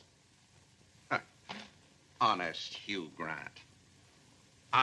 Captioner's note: scoffs